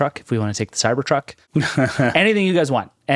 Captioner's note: laughing